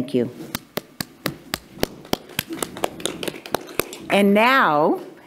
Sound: hands clapping

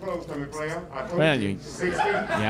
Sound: crowd laughing

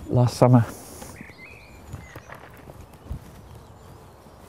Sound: birds chirping

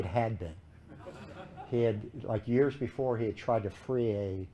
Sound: laughter

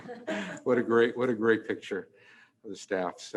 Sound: laughs

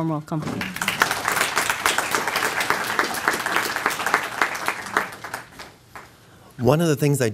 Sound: applause

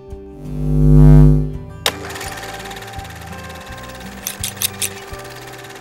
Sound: camera film rolling

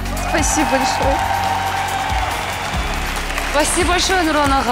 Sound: audience cheers

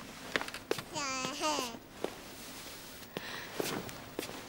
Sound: baby cooing

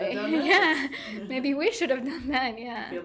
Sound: laughing

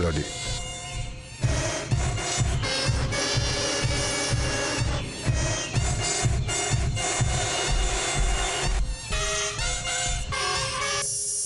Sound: loud Mosquito Sounds

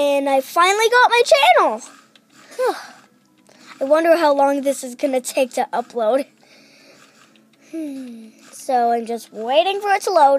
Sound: breath

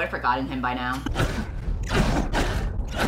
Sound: coughing

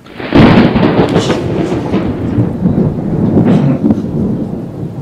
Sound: thunder

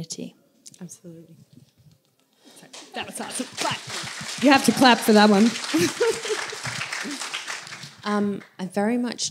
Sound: applause

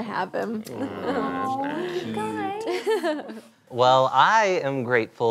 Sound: everybody aw's

